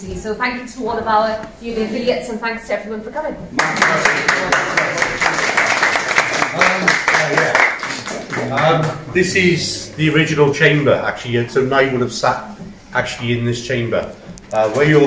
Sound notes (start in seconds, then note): 6.7 applause